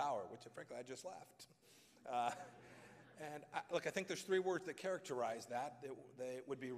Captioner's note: laughter